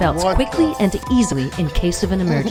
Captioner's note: beep